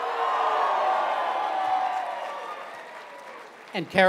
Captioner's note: cheering